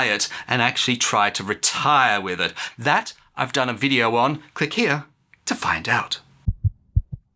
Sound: heart beats

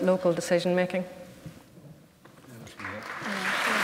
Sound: applause

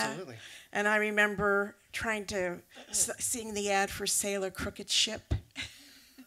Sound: laughs

